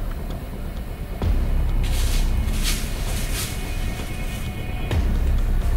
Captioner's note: Buck making scrape